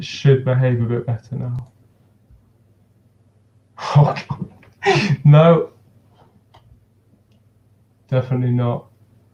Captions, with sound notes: Should behave a bit better now. Okay, (chuckles) no, definitely not.